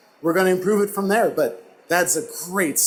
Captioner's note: none